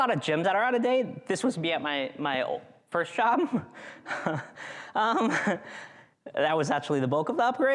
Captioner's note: chuckles